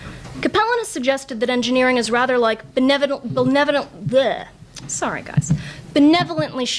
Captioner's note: struggles to say word